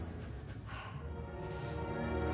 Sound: sighs

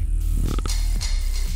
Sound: teeth grinding

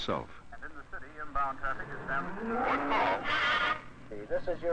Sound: radio static; radio

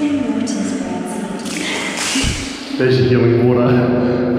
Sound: echoing speech

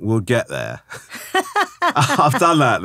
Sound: laughing

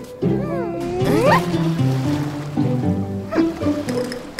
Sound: sound of the sea

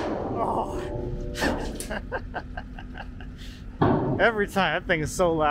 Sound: laughs

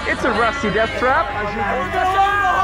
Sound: shouting

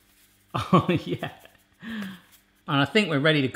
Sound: chuckling

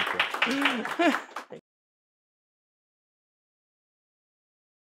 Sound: clapping

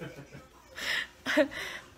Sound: loudly laughing

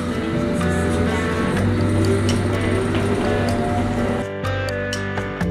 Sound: whirring of train in motion

